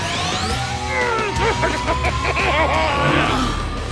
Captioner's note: laughing